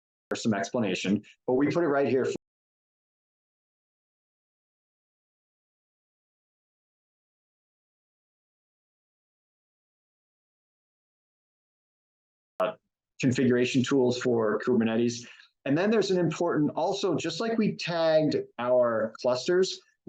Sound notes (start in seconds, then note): 2.6 silence